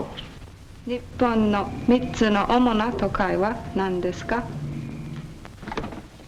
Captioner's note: speaking Japanese